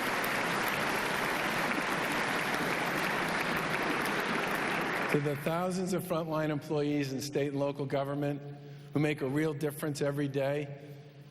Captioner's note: applause